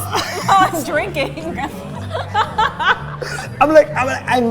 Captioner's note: both laughing